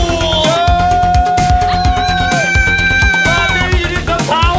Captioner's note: yelling